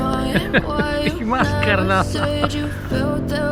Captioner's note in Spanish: risa nerviosa